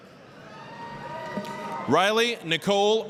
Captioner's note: applause, cheering